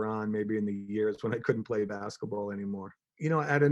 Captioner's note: chuckles